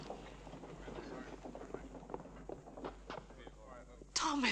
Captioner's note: townspeople chattering